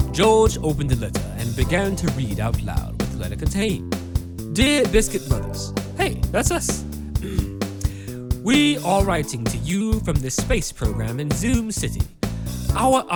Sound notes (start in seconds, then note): 7.2 clears throat